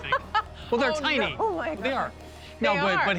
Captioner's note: laughs